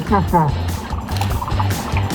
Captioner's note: camera click